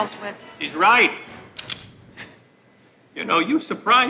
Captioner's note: gun clicks